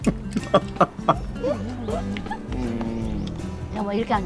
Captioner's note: both laughing